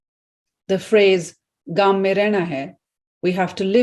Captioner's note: speaking in Hindi